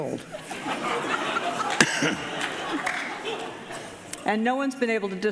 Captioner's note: audience laughing